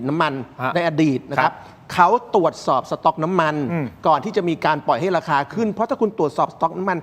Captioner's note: clears throat